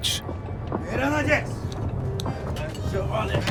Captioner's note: men shout in foreign language